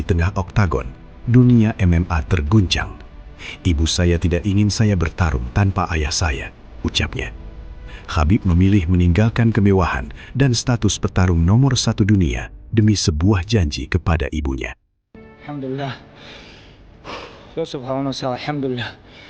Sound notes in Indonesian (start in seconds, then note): 16.1 terkesiap; 17.0 menghela napas